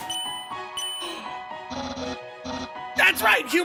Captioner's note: gasps